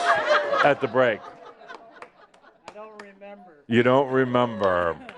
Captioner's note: more laughter